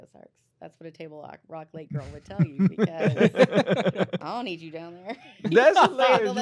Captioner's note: laughter